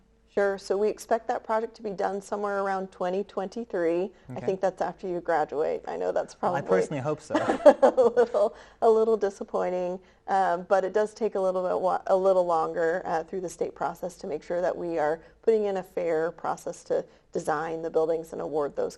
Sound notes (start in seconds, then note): 7.2 laughs